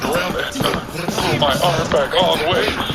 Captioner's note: sounds of effort